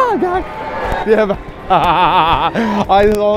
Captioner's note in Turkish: hain feyk gülüşü